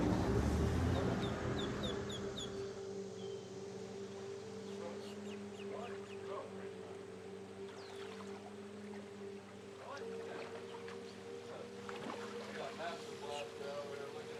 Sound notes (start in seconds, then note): 6.3 distant chatter; 6.3 water lapping